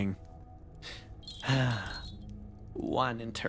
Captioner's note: sigh